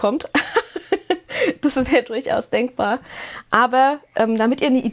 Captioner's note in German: gelächter